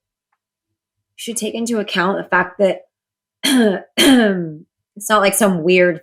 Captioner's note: clears throat